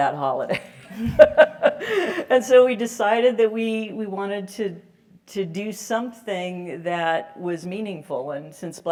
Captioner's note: laugh